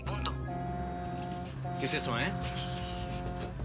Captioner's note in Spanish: Claxon